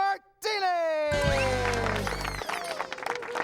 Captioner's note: applause